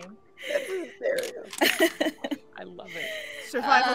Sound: laughing

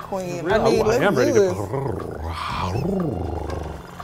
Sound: purrs

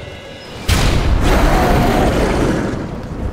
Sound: boom

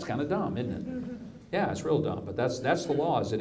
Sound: audience agrees

